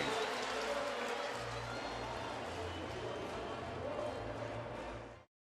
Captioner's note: pa announcement